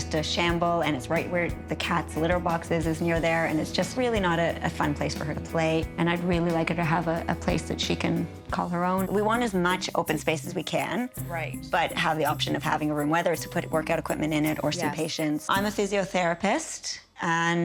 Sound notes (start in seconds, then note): none